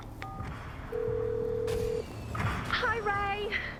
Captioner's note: phone rings